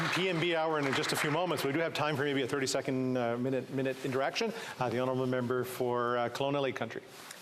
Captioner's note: applause